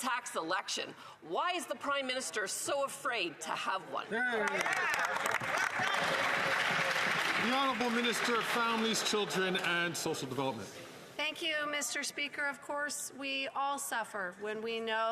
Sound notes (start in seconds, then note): 10.3 some Applause